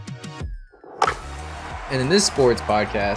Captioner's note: bat clacks